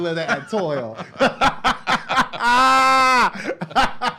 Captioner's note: laughs